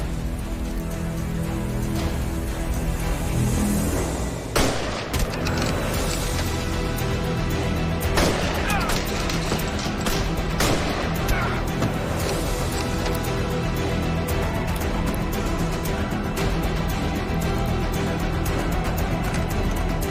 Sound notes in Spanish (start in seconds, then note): 4.5 Disparos